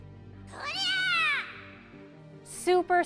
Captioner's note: Kirby shrieks gleefully